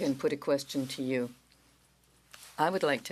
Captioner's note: speaking French